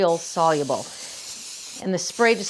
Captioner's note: bottle spraying